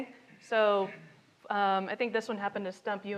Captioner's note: attendee speaking faintly continues